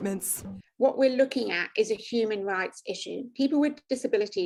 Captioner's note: British accent